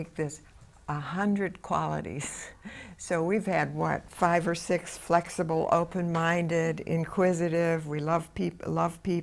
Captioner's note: laughs